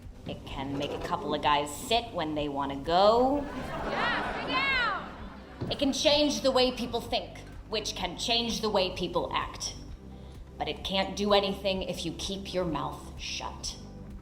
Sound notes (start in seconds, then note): 3.3 laughs